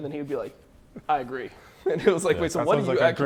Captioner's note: laughs